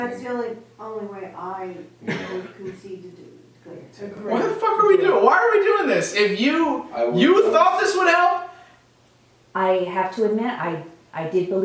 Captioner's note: mumbling